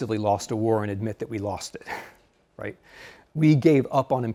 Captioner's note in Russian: смеется